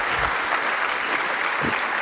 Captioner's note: applause